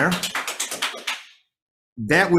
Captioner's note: audience applauds